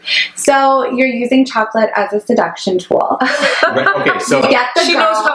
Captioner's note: laughs